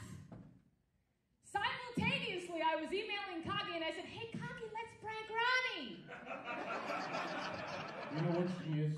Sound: audience laughs

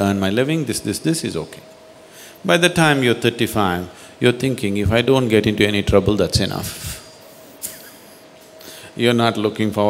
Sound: laughs

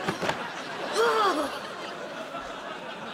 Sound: groaning

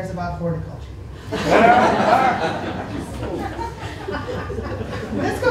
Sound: laughter

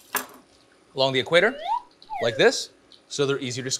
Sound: whistle noise

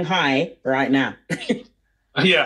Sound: laughs

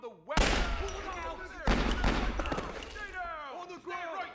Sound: gunshots

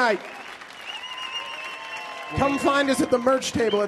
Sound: audience cheering and applauding

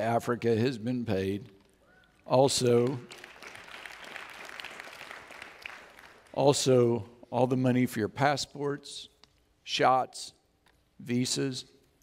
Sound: audience Applauds

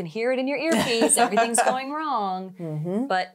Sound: laughing

